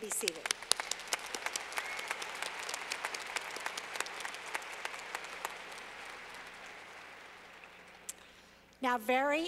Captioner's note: clapping